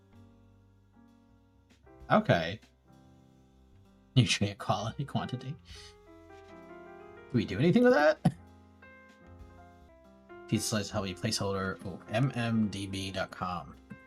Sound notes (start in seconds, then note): 3.7 mumbling column names